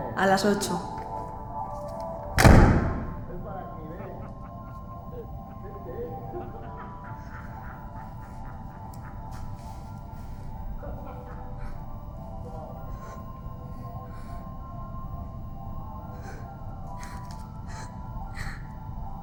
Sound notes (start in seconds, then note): 2.1 men laughing; 2.3 door slams; 4.3 men laughing; 15.9 Ira sobs